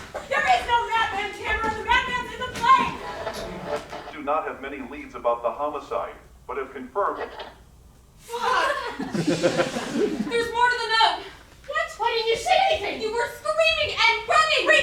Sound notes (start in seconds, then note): 3.0 radio static; 7.2 static